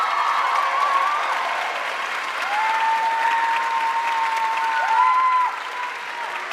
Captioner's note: audience cheering and applauding